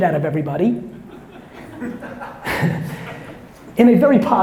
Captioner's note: audience members laughing